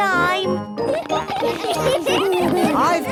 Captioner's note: laughter